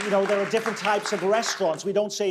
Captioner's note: audience clapping